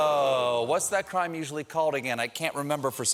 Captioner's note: audience reacts